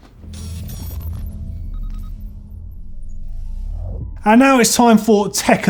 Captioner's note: whirring and beeping